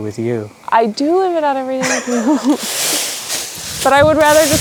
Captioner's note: laughs